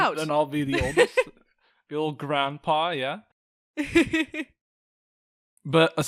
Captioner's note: laughs